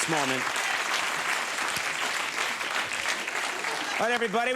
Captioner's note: crowd cheers